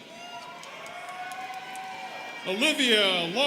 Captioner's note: students cheering